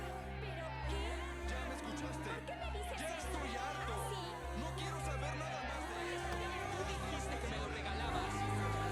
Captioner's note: loud conversations